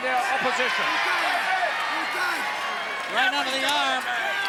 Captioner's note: crowd cheering